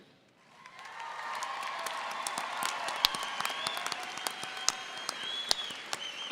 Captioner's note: audience applauding and cheering